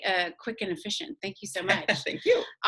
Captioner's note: laughs